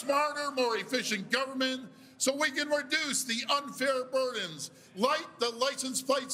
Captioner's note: cheers and Applause